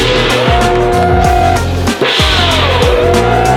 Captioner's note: gong ringing; people cheering; gong ringing